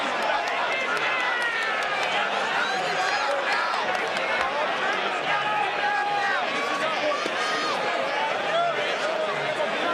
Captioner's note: crowd chatter